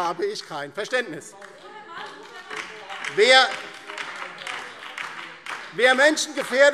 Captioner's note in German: Beifall DIE LINKE und vereinzelt BÜNDNIS 90/DIE GRÜNEN